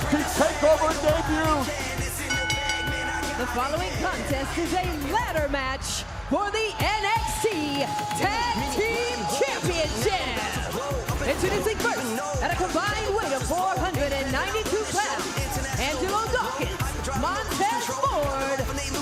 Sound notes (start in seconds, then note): 4.9 bell ringing